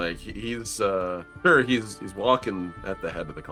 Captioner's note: none